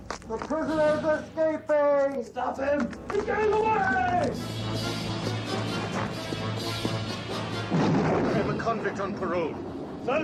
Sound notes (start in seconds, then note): 7.7 gunshot booms